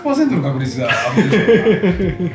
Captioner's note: laughs